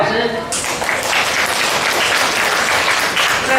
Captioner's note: applause